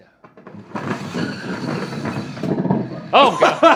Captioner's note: puck sliding